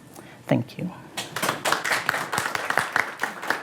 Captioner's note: applause